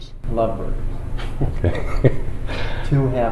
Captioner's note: laughter